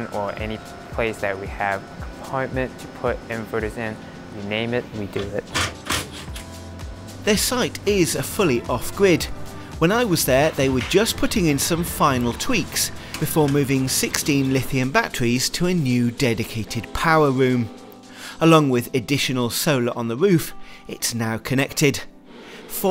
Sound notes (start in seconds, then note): 5.7 drill machine whirring